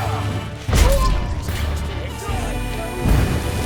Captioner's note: Aard booms; flames whoosh